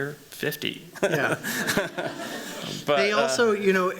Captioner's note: laughter